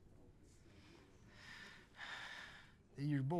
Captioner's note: Bottles sighs